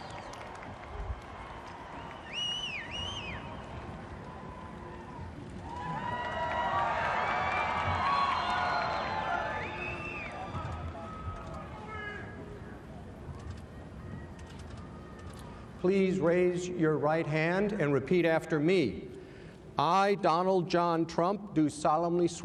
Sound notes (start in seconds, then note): 5.5 applause; 10.4 cheering